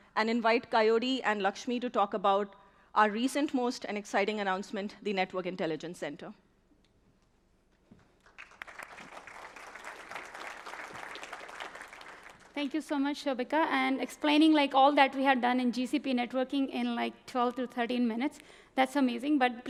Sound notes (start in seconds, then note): 8.2 applause